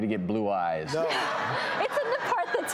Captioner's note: laughter